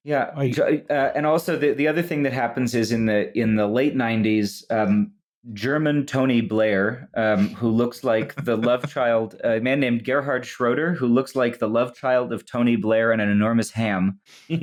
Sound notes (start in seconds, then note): 8.0 chuckles